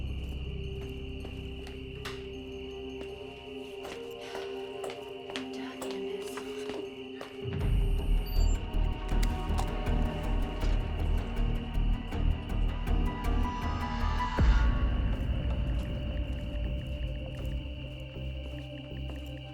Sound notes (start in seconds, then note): 4.2 Candace sighs; 6.8 crickets chirping; 6.8 tense music